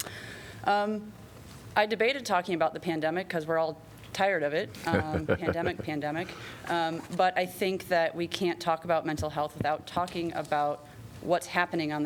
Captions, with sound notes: Um, I debated talking about the pandemic because we're all tired of it. [LAUGHTER] Pandemic, pandemic. But I think that we can't talk about mental health without talking about what's happening